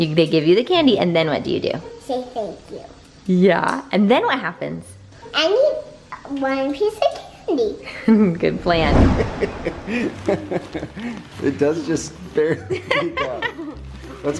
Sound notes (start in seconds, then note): 9.9 laughing